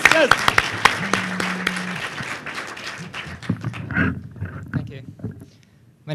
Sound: applause

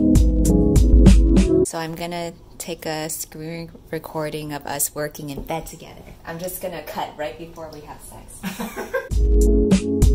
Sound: laughs

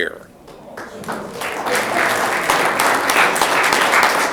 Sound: audience clapping

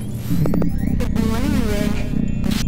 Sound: in static

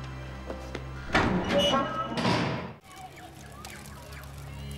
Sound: door slamming

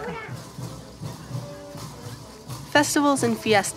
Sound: bells jingling

